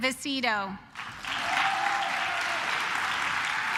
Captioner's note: claps